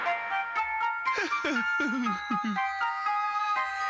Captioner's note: chuckling